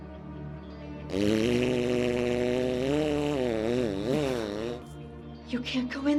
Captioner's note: fart